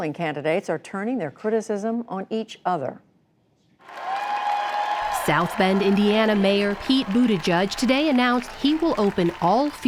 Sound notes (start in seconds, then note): 3.8 cheering and applause